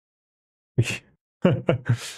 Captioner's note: laughs